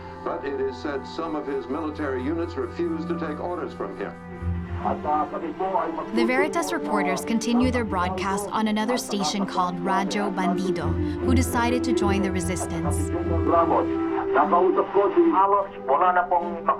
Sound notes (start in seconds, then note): 4.8 reporter speaking in foreign language